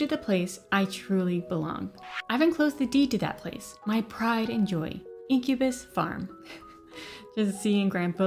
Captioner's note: chuckles